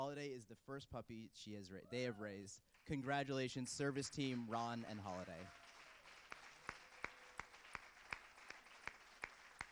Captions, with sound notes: Holiday is the First puppy they have raised. Congratulations Service Team Ron and Holiday. (Cheers and applause).